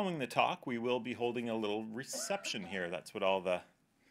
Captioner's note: coughing in background